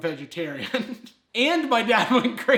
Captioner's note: laughs